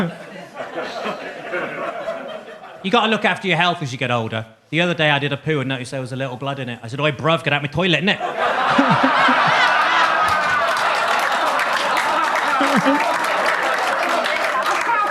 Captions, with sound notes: You gotta look after your health as you get older. The other day I did a poo and noticed there was a little blood in it. I said, "Oi, bruv, get out my toilet, innit." (laughs) (audience laughs) (audience claps)